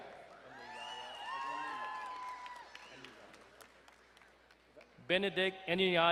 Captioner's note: crowd cheering and applauding